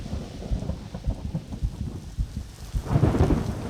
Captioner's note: rain falling